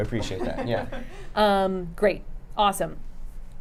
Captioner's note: laughing